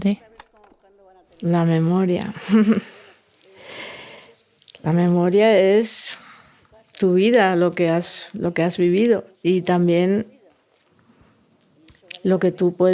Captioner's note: she laughs